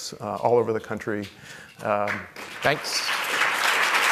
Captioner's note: applause